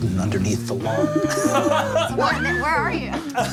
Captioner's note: group laughing